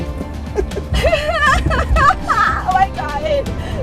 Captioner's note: laughing